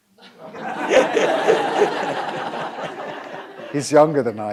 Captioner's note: audience laughing